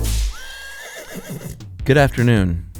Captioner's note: horse neighing